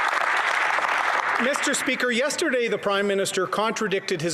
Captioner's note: applause